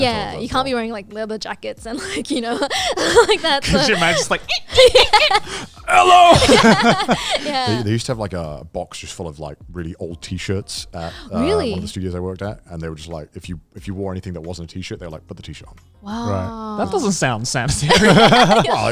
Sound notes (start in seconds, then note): 4.6 imitates squeaking; 6.7 all chuckling